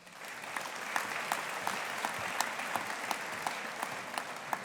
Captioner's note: audience applauding